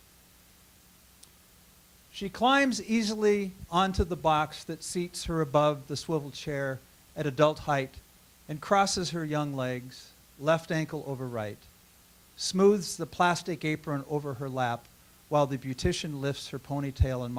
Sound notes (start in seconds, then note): none